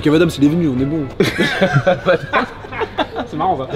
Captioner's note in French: rires